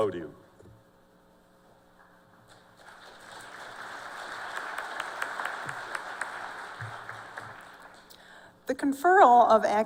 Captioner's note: applause